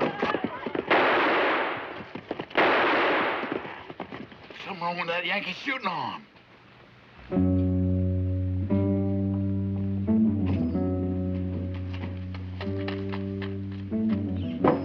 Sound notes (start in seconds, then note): 2.5 gunshots banging; 7.4 tense music